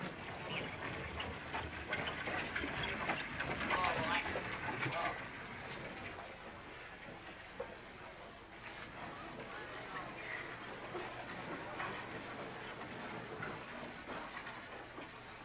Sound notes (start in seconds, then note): 3.6 chatter